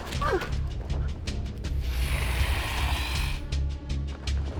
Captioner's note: dragon growls